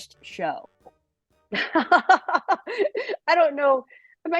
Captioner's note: laughs